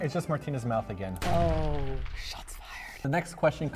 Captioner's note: bomb noise ROASTED